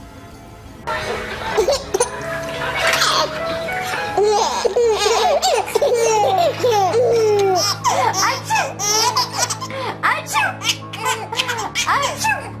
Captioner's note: baby laughs